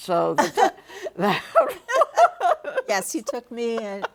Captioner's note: both laughing